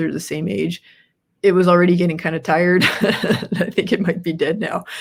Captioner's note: laughs